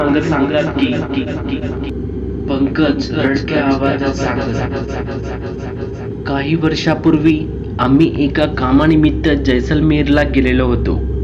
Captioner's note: Pankaj in crying